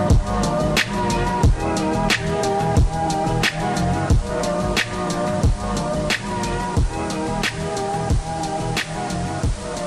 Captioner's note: inteference